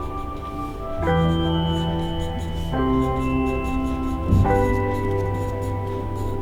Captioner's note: alluring music; pencil scratching